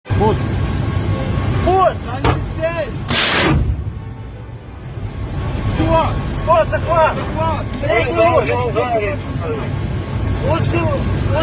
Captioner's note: fire & blast noise